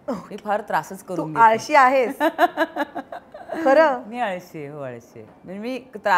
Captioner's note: Chuckles